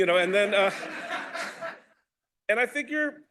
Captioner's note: laughter